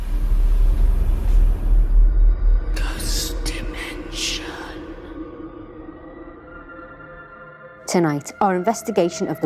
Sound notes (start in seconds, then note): 0.2 intense eerie music; 3.2 ghostly Voice